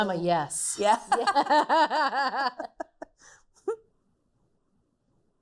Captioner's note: laughing together